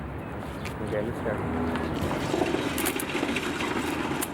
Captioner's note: faintly speaking